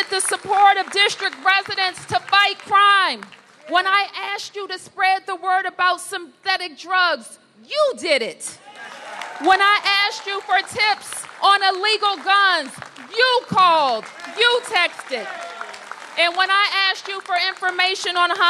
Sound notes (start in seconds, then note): 8.6 applause